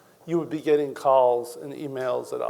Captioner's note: none